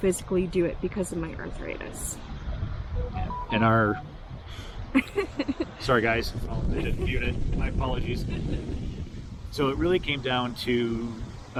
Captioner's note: cell phone